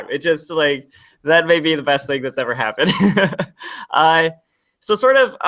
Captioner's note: laughs